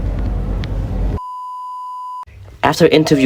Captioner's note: beep